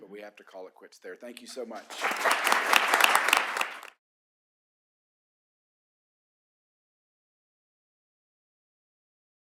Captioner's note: applause